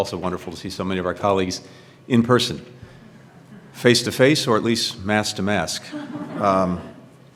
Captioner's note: laughter